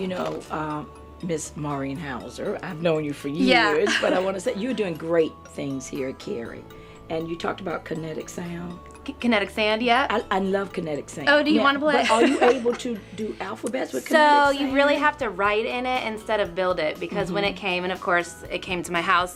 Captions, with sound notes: - You know, Ms. Maureen Houser, I've known you for years, but I wanna say you're doing great things here at Cary. You talked about kinetic sound? - Kinetic sand, yeah. - I love kinetic sand. - Oh, do you wanna play? (laughs) - Are you able to do alphabets with kinetic sand? - You really have to write in it, instead of build it because when it came, and of course it came to my house